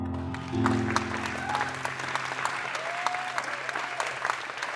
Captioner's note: applause; cheering